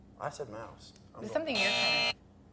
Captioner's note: buzzer